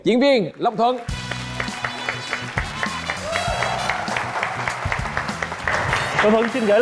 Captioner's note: applause